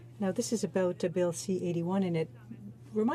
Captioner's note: speaking in french